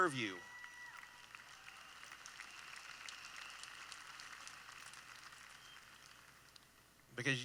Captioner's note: applause